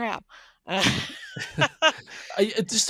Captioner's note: laughing